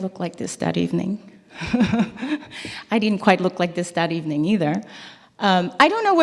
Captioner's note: laugh